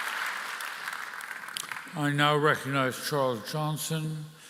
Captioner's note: applause